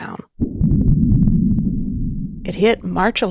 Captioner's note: muffled vibrations pulsating